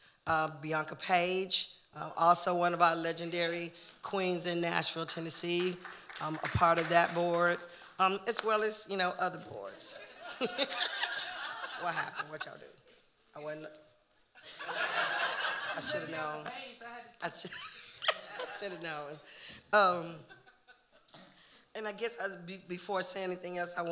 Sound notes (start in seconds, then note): 5.0 audience member clapping; 10.0 audience laughing; 10.2 joins in laughing; 14.4 audience laughing; 18.0 laughing